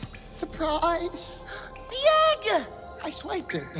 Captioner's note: gasps